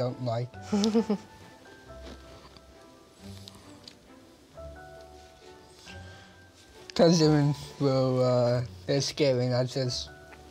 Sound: laughter

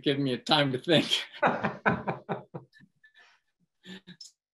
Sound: laughs

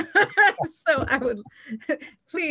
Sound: laugh

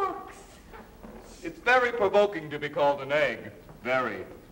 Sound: none

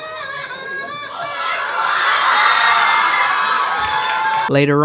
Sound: crowd cheering

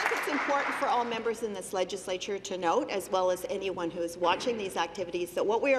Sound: applause

